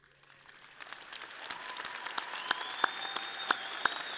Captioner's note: audience applauds; people cheer